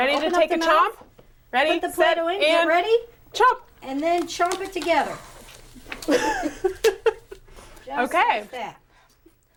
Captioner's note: laughter